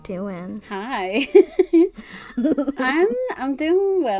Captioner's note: laughs